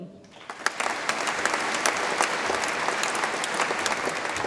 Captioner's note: audience applauds